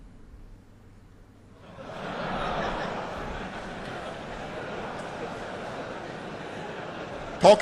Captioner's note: laughter